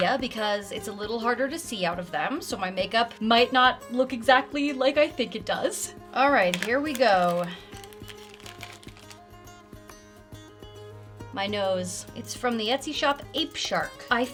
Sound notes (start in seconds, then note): 8.0 bag crinkles; 8.0 gentle cheerful music